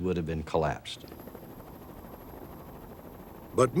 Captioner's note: rotating chopper blades